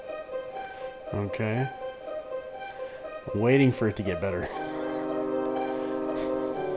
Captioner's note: laughs